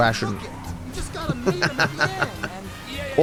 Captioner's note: laughs